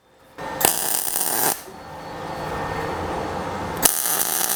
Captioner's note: torch buzzing